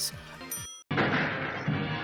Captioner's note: gunfire; exciting music